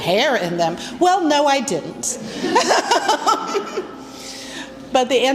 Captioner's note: laughs